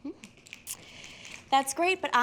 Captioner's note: fingers snapping